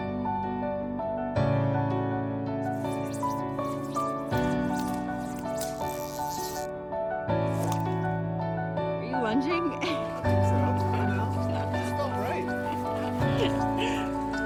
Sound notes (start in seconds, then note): 2.7 fishing pole whipping; 4.3 reel ratchet clicks; 9.7 laughs